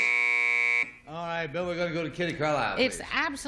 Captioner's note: buzzer